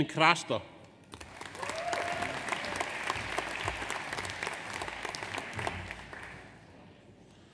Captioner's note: audience applauds; audience cheers